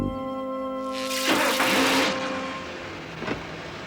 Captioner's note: buzzes